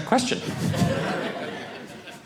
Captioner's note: audience laughing